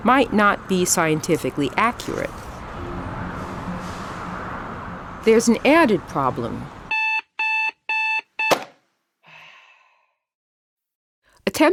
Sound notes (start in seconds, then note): 1.4 wind blowing; 6.9 phone beeping; 7.1 sighing